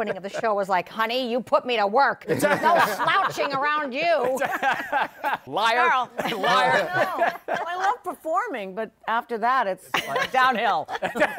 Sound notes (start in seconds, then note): 4.0 laughter